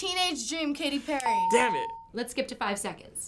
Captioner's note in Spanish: ding